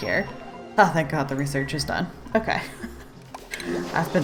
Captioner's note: laughs